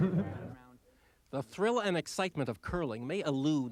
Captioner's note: laughing